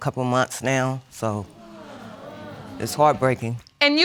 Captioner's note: audience exclaims